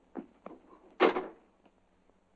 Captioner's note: door closes